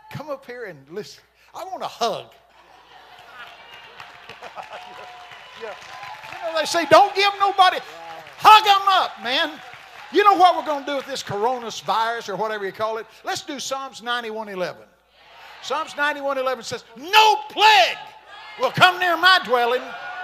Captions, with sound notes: Come up here and listen. I want to hug. (congregation shouting) (congregation clapping) You know, they say, don't give no nobody, hug 'em up, man. You know what we're going to do with this Corona virus or whatever you call it? Let's do Psalms 91:11. Psalms 91:11 says, "No plague will come near my dwelling."